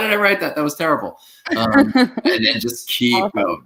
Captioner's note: laughs